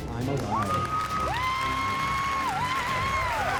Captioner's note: cheers and applause